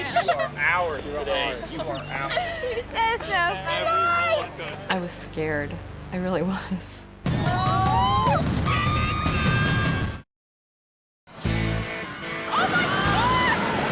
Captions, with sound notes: - You are ours today. You are ours. - I was scared, I really was. (people screaming) (upbeat music) - Oh my God!